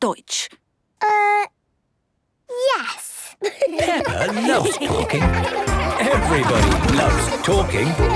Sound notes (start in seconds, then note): 3.4 laughter